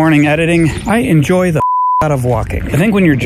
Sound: beep

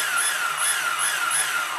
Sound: engine revving

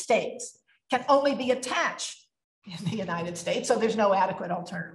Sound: laughs

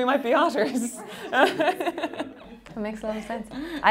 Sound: laughing

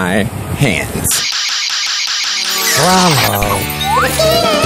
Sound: screeching noises

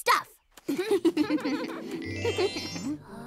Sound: all chuckling

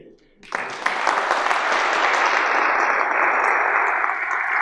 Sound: audience applauding

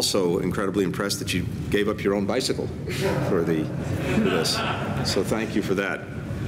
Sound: laughter

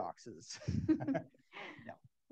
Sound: all laugh

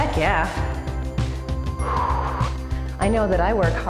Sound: breathes

